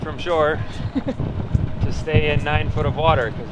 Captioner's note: laughs